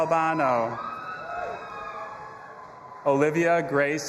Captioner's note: audience applauding and cheering